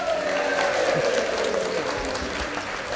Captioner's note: everybody cheering